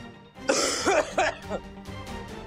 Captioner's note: coughs